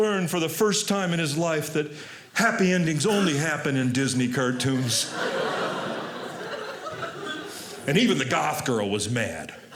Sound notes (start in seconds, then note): 4.3 audience laughing